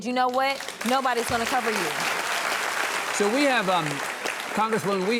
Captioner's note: audience applauds